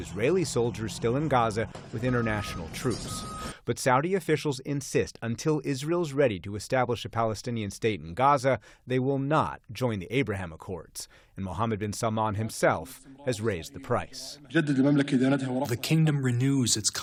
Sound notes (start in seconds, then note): 15.8 through translator